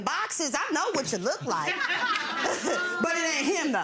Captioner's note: laughing